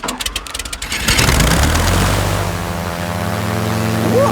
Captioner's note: plane humming